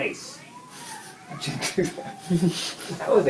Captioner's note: laughter